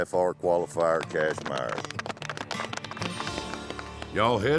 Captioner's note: all clapping